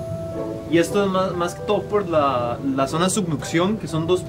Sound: speaking Spanish

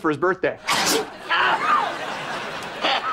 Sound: sneezing, coughing

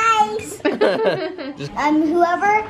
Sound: laughing

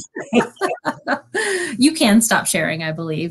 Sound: laughter

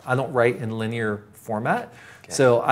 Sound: none

